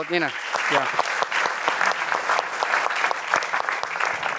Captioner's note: applause